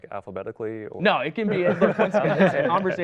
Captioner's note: laughter